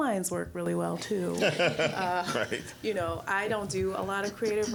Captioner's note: all laughing